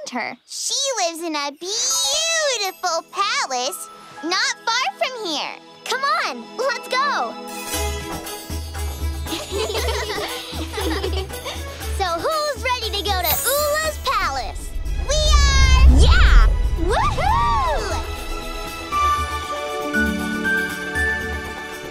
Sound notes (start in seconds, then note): 9.2 laughter